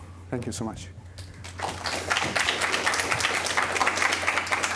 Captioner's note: applause